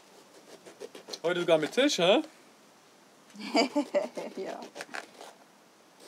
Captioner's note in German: lacht